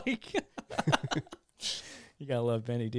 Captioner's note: laughing